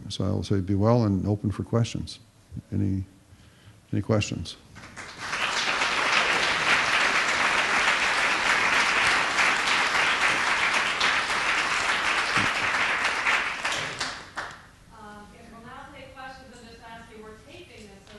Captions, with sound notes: So I'll say be well and open for questions. Any questions? [APPLAUSE] And we'll now take questions. I'll just ask you-- we're taping this.